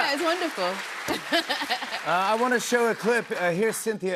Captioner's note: laughs